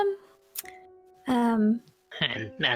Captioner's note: tsk